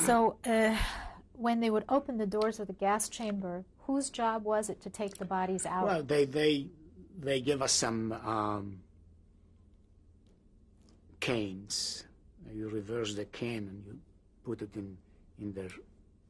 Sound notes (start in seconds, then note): 9.1 pauses for 3 seconds